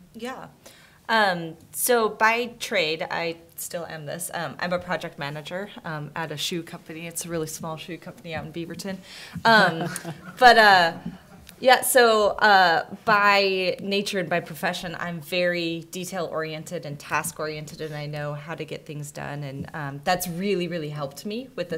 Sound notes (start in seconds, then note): 9.5 soft laughter